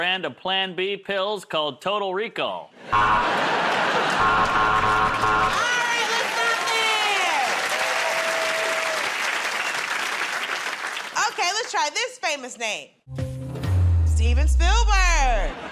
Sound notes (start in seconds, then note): 4.1 buzzer; 7.8 cheers and applause